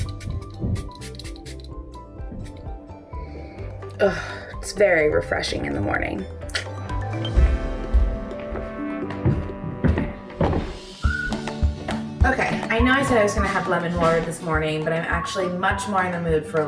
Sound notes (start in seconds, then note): 0.0 nozzle spritzing; 6.4 tongue clicks; 9.3 footsteps thumping